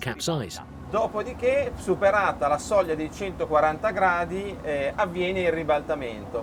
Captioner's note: speaking in foreign language